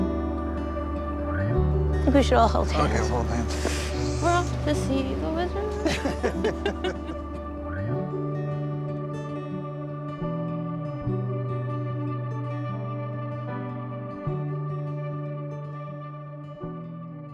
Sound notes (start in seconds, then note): 2.2 indistinctive chatting; 6.1 laughing; 8.8 calming music